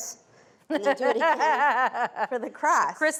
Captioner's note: laughing